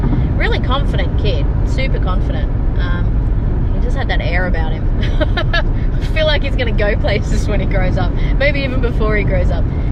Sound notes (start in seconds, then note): 5.1 laughs